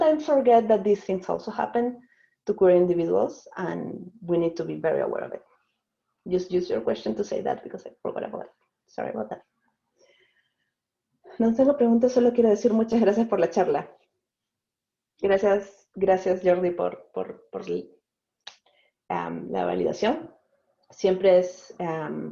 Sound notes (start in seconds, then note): 11.4 in Spanish